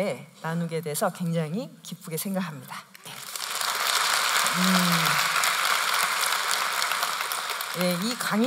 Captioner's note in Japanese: 拍手